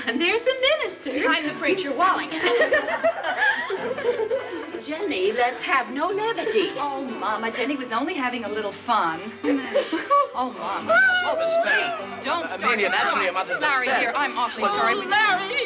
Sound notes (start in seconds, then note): 2.4 ALL LAUGHlNG